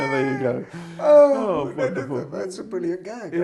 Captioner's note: sighing